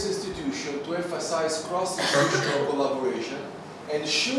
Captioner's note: cough from audience